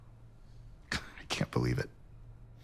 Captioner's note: scoffs